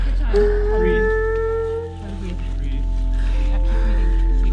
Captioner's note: people talking